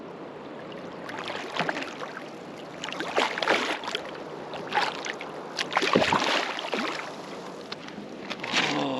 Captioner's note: fish splashing